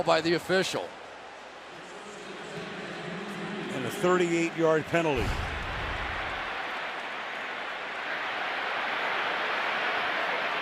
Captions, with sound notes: Good call by the official. [pa announcement] And a 38-yard penalty.